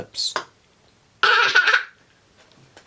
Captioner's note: laughter